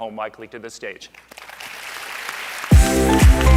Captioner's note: applause; upbeat music